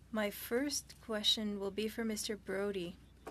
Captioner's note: speaking French